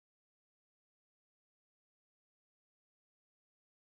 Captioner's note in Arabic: none